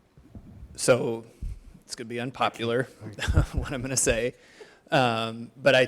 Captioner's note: laughing